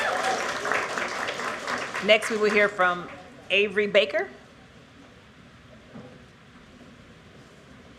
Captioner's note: applause